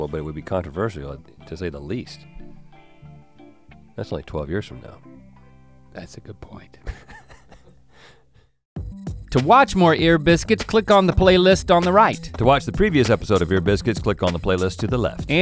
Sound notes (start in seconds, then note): 6.8 Rhett chuckles